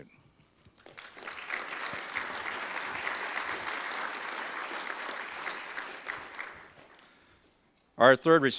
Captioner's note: audience applause